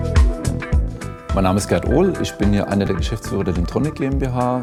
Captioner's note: non-english speech